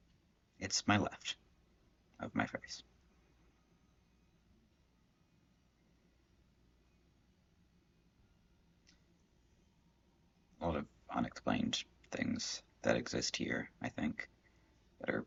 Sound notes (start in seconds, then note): 3.0 silence